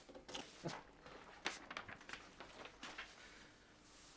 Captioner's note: paper rustling